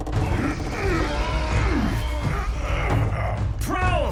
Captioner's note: optimus and bulkhead grunting